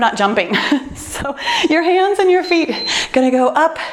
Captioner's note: timer beeps